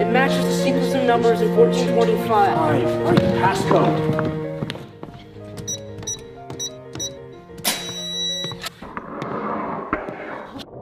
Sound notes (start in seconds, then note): 6.4 keypad beeps; 8.7 panel swooshing sound